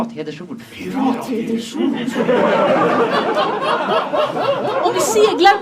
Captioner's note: laughter